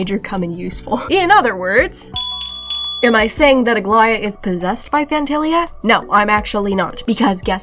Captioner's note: ding Ding Ding